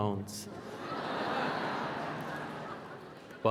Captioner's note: laughter